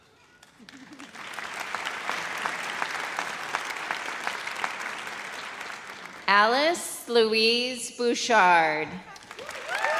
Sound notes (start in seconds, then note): 0.4 audience applauds